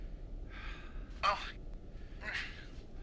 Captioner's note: grunts